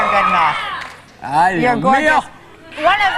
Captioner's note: yells in Spanish